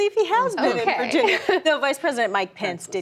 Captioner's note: laughter